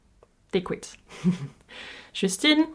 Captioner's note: giggles